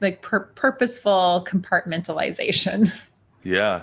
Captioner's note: chuckles